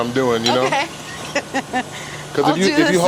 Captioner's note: laughs